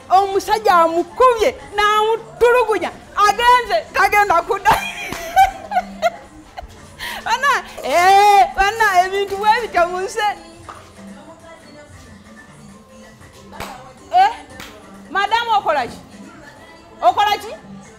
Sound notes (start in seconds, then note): 4.7 evil laugh